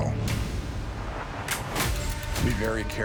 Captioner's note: dramatic sfx; gun cocking